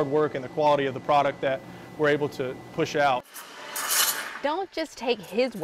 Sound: sound of Espresso machine

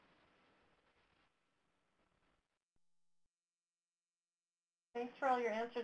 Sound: silence

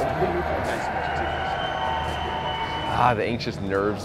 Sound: cheering in the background

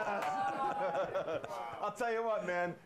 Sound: laughter

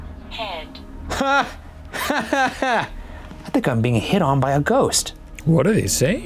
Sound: laughs

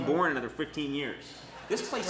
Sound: audience laughs

